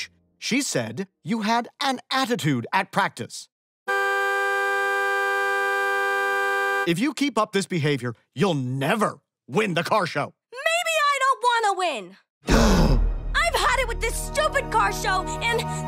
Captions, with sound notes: She said you had an attitude at practice. [honking] If you keep up this behavior, you'll never win the car show. Maybe I don't want to win! [gasps] I've had it with this stupid car show, and...